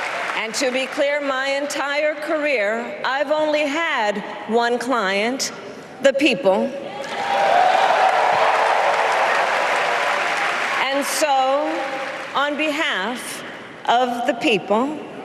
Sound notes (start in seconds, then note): 4.4 applause